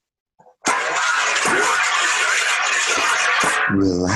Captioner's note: pots clanging